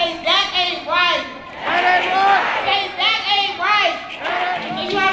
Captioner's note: crowd